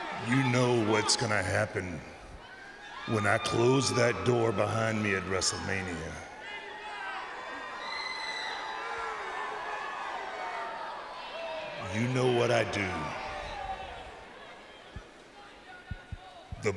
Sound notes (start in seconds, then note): 8.1 audience cheers